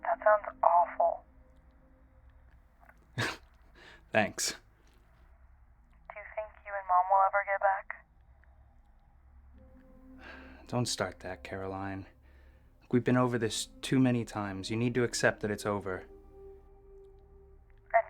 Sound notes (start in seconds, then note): 3.1 laughs; 10.1 sighs